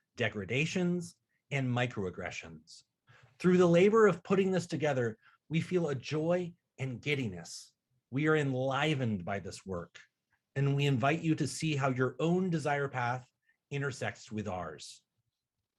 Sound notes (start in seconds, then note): none